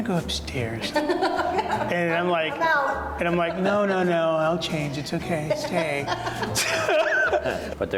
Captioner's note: laughs